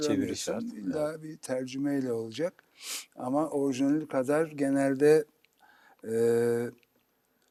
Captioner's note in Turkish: homurdanır